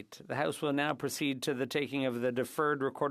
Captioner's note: speaking French